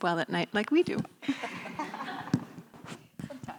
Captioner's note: laughing